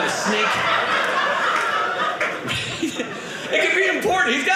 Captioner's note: audience laughing